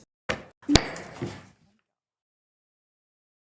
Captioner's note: gravel bangs